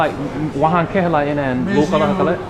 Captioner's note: somali; french